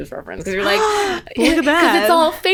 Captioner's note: gasp